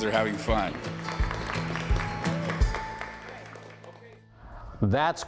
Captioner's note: applause